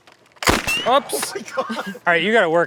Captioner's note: pew